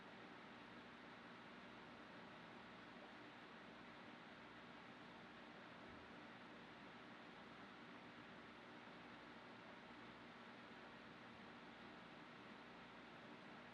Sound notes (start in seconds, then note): none